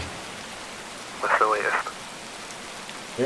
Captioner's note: police chief on phone